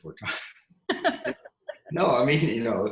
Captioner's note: laughs